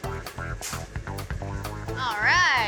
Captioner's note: shoveling